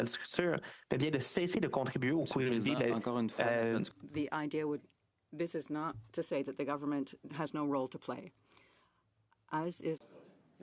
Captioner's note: speaking French